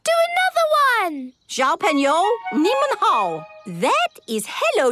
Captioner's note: speaking Chinese